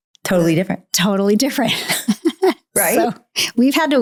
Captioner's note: laughs